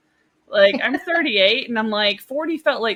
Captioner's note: laughing